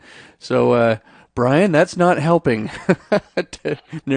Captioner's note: chuckling